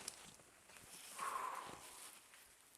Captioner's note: sighs